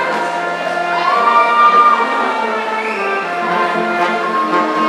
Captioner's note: audience cheering